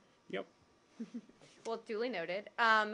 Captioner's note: laughter